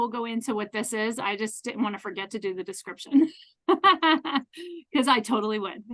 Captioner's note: laughs